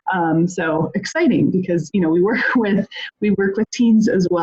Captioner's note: laughs